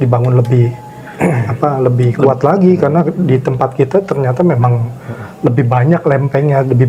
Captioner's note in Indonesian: berdehem